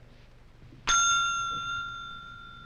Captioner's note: Charlie Towman rings the desk clerk's bell